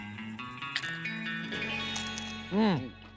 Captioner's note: crunching